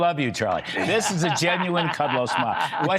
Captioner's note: laughter